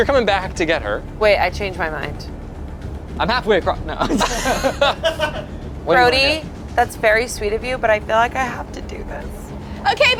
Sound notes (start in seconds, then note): 4.0 everyone laughs